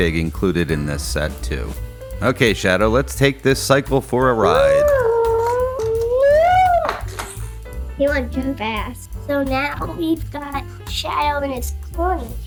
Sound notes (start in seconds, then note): 4.5 woooooo!